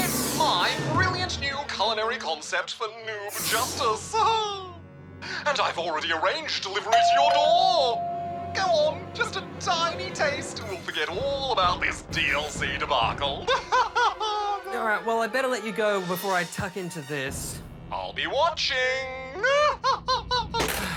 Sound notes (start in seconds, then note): 6.9 doorbell rings; 13.4 laughs; 20.7 sighs